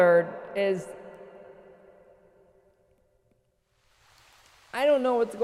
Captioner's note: awkward silence